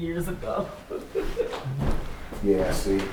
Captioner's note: laughing